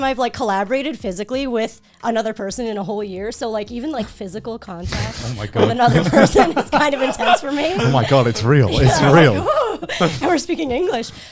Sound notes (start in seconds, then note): 6.8 all laughing